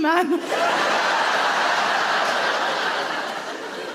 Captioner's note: audience laughs